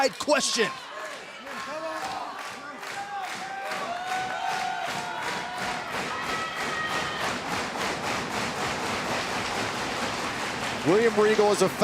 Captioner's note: crowd cheering